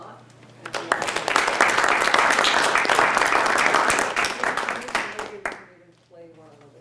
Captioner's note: applause